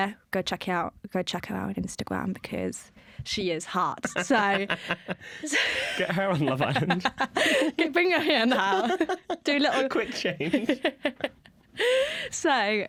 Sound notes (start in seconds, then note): 5.0 laughter; 11.6 laughter